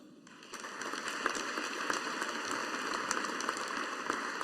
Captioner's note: audience applauding